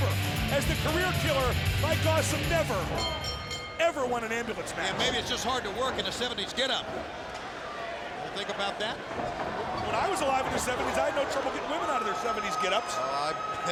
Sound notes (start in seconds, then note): 2.8 bell rings